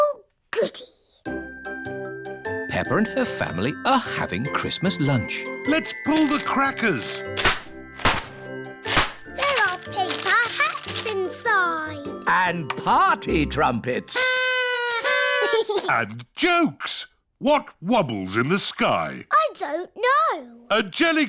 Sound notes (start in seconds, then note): 14.1 blowing